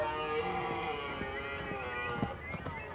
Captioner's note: deer calls continue